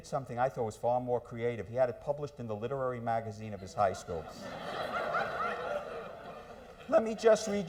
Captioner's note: laughter